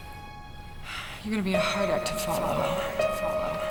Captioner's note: sighing